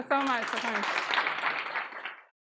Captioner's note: applause